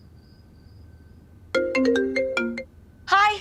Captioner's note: mobile ringing